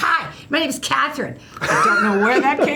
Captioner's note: laughs